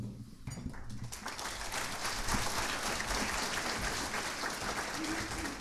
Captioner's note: audience applauding